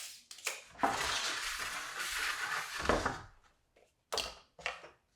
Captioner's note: tape measure clicks; wood scraping; pen thuds